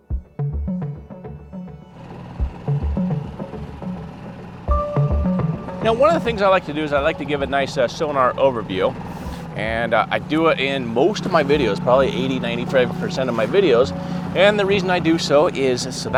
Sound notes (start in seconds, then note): 2.1 boat whirring